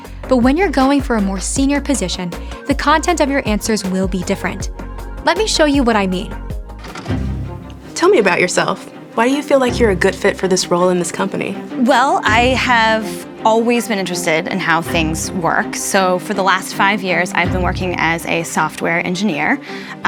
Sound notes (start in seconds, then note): 6.7 tape playing